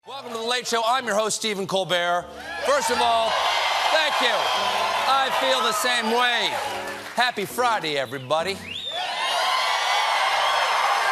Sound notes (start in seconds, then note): 4.9 cheers and applause; 8.7 cheers and applause